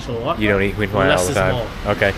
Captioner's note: speaking Vietnamese